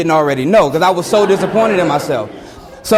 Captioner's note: students laugh